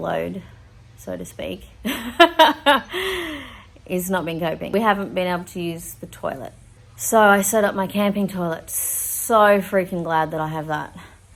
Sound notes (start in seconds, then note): 1.9 laughs